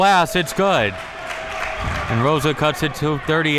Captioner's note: audience applauding